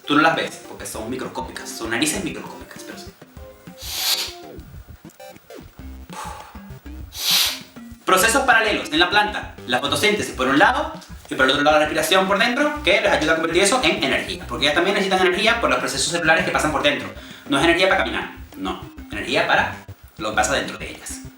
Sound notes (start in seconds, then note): 3.7 inhales; 6.0 inhales; 7.0 exhales